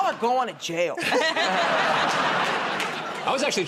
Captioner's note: laughter